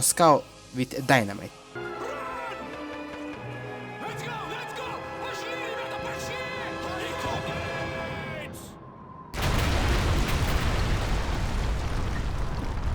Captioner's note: Faint cries of Germans and Explosion